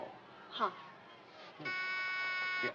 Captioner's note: door buzzes